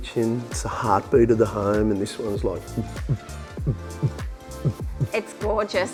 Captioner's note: mimics heartbeat sound